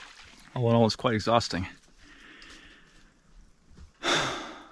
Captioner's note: exhales